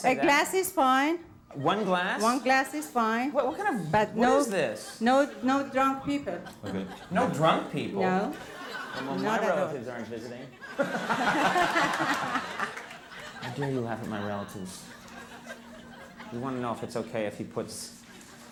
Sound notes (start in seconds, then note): 10.6 audience laughing